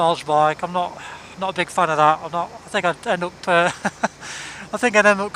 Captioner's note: laughs